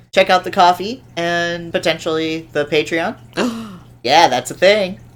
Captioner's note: gasp